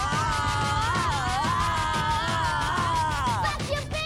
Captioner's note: child and yelling